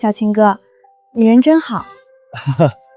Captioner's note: cough